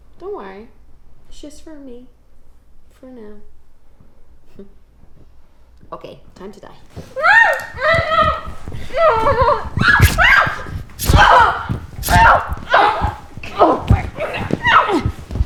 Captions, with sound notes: Don't worry, it's just for me for now. Okay, time to die. (Jessie screams) (knife stabbing)